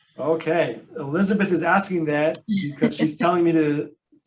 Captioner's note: laughs